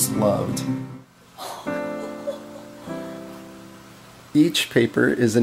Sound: gasps

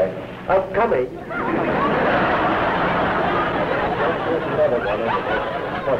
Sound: laughter

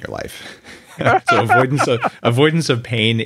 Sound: laughs

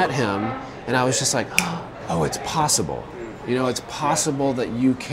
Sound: snaps fingers

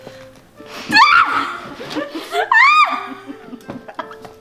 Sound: laughs

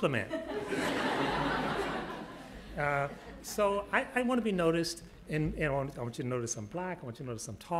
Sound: laughter

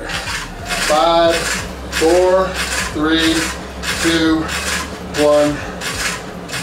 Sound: groans

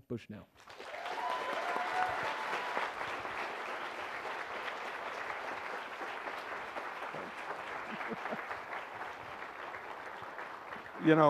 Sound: applause

